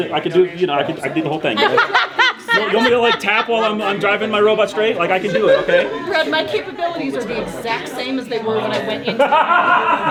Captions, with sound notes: I can do the, I can do, you know, I could do the whole thing. (commentator laughing) You want me to like tap while I'm driving my robot straight? Like, I can do it. Okay? - Brad, my capabilities are the exact same as they were when I went into-